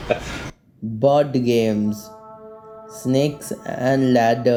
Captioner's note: laughs